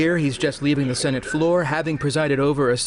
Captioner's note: alarm sounding